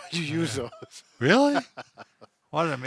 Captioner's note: laughs